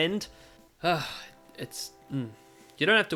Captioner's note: sigh